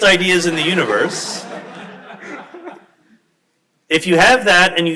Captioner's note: crowd laughs